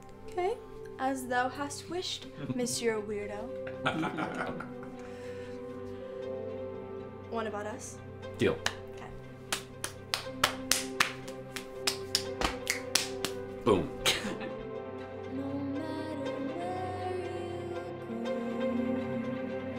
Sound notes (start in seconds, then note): 3.6 parents chuckling; 9.4 slapping